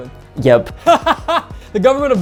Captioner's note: laughing